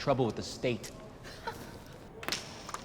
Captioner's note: laughs